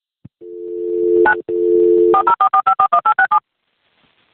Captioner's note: dial tone